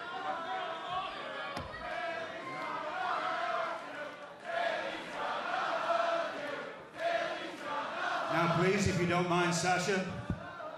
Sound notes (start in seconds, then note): 0.0 cheers and boos; 4.8 fans chanting